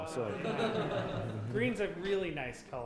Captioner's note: audience laughing